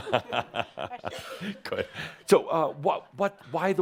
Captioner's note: chuckling